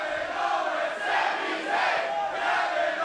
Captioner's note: fans chanting